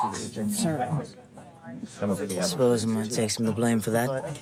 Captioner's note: broad accent